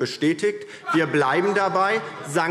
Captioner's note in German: Vereinzeltes Lachen